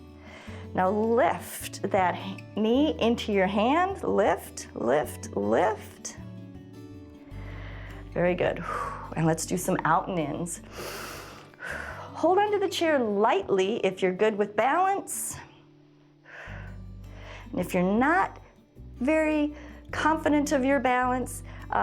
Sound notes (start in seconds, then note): 7.2 exhales; 7.3 inhales; 10.6 inhales and exhales